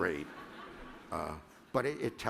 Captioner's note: laughter